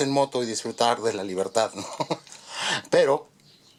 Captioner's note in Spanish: risas